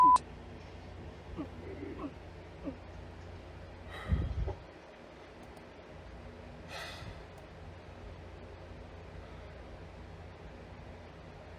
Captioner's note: gagging